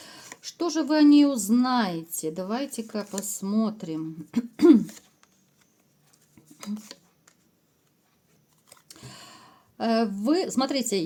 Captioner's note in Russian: откашливается